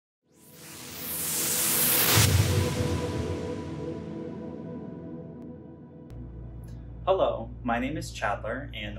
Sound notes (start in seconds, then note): 0.3 gentle music; 1.8 low whooshing